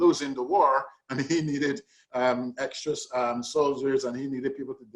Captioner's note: laughs